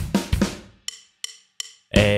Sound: deep voice

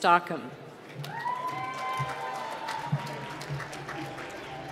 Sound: applause

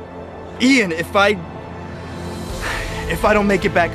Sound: sigh

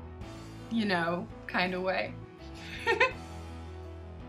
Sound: giggles

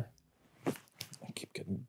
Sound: fabric rustling

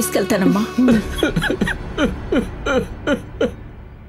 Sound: crying

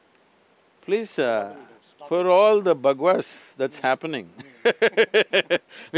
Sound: laughs

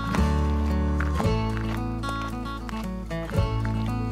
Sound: upbeat music; footsteps pattering

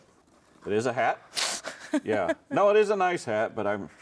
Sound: laughs

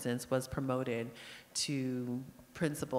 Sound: none

